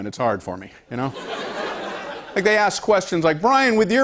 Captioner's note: laughter